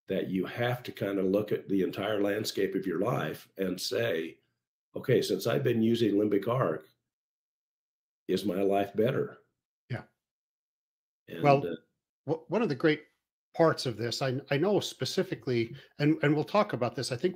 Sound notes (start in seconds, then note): none